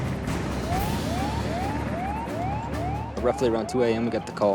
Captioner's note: sirens blare